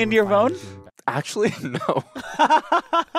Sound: laughs; laughs

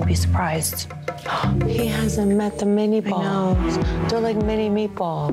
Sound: gasps

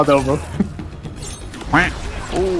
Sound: quack

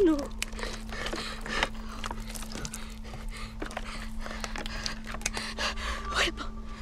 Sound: panting

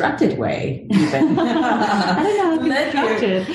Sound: laugh

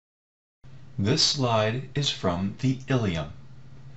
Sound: voiceover

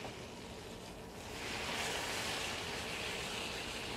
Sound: sizzling

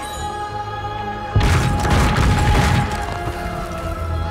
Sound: sound of fire and explosions

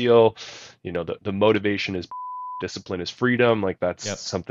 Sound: beep

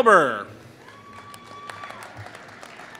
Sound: applause

